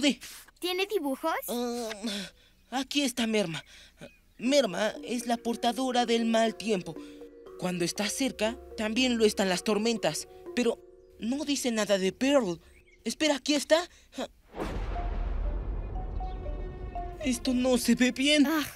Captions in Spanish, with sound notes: -¿Tiene dibujos? -Ah, aquí está Merma. Merma es la portadora del mal tiempo. Cuando está cerca, también las tormentas. Pero no dice nada de Pearl. Espera, aquí está. [Sonido de relámpagos] Esto no se ve bien.